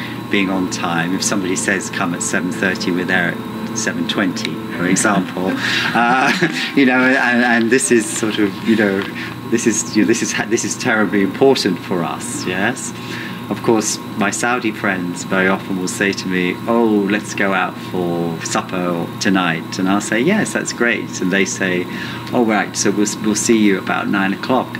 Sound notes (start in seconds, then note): 5.7 laughter